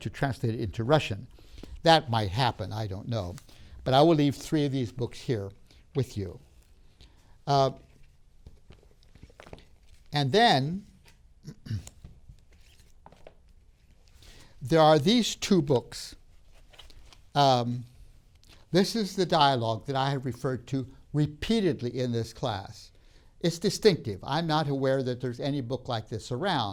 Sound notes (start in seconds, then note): 6.9 rustling sounds; 11.4 clears throat